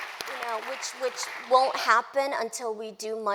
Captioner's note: applause